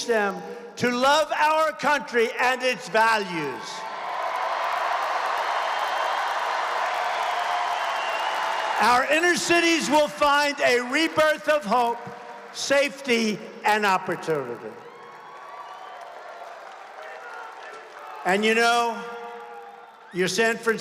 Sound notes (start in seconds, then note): 9.3 applause